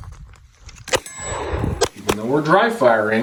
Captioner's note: gun firing